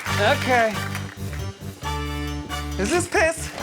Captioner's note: laughs